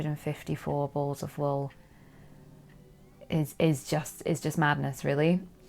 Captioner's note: none